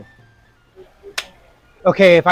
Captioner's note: hands clapping